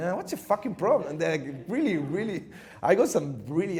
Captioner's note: chuckles